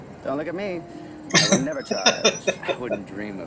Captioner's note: laughing